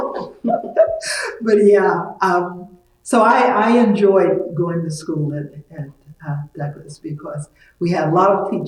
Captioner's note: laughs